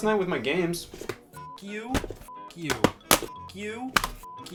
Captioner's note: beep